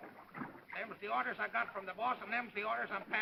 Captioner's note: man's voice